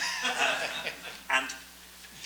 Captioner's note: audience laughs